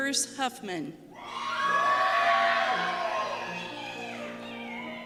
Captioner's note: cheers